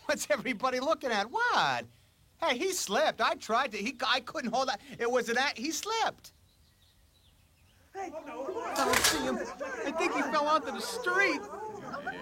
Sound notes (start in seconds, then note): 8.0 ALL CLAMORlNG